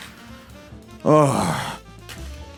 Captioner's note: sighs